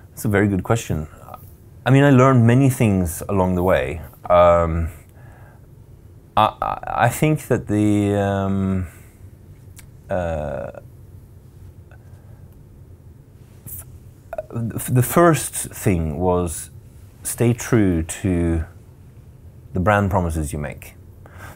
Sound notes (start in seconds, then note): none